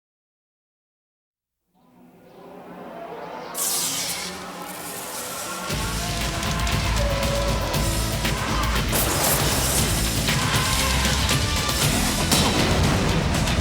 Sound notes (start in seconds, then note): 3.6 electric buzzing; 10.4 heavy rock music